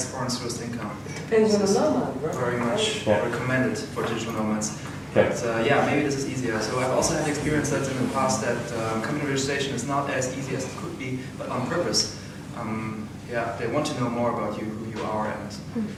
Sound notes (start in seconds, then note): 1.0 background chatter